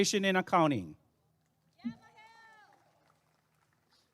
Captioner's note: applause and cheering